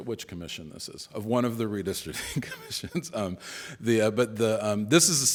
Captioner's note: chuckles